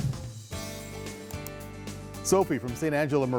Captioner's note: click sound